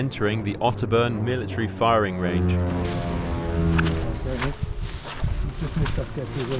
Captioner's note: military aircraft sounds